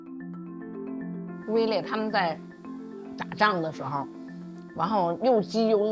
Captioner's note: speaking foreign language